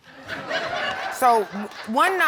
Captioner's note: audience laughing